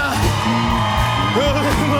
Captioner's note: cheers and applause